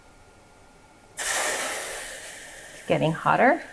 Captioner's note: water sizzling